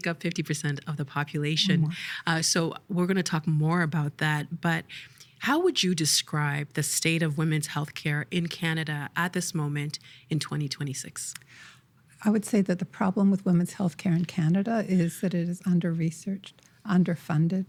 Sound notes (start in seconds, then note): 1.6 laughing